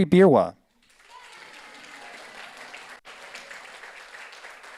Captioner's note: audience applauds